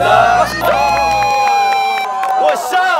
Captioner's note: claps